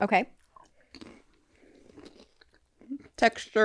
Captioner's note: both chewing